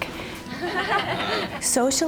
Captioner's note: laughter